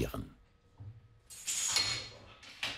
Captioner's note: clinking, hammering